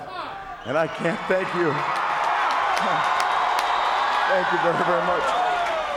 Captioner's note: crowd cheers